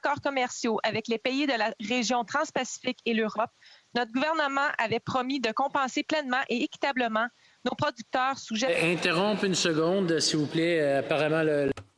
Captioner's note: speaking French